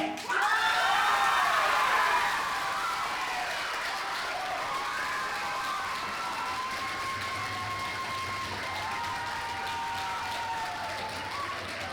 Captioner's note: applause